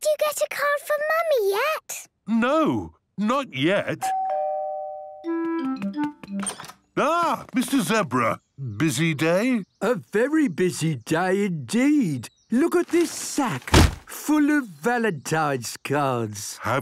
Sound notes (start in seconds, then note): 4.0 doorbell rings